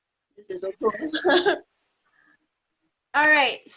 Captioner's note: laughing